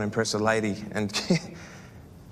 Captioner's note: laughs